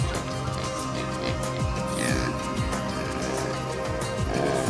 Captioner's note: pig oinking